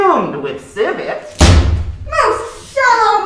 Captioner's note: banging